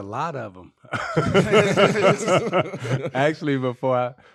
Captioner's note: laughing